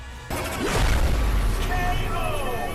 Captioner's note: explosion sound